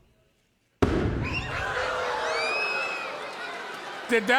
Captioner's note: loud boom; audience squawks